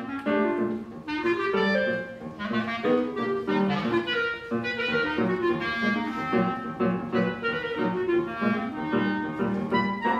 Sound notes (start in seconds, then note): none